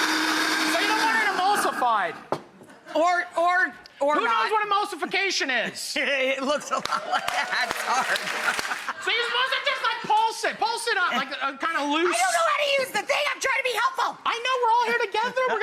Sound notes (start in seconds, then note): 6.5 laughing; 6.7 Matty and audience clapping